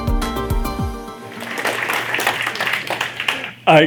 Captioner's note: applause